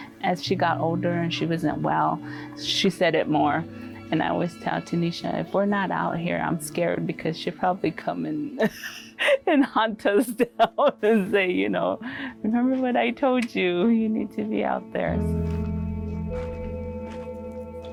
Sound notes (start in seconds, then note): 10.2 laughs; 15.2 calming music